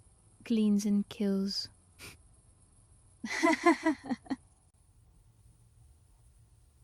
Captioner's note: laughs